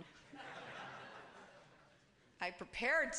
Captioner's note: laughter